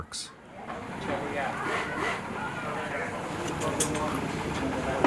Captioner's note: workers chattering